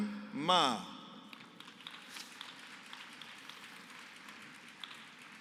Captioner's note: applause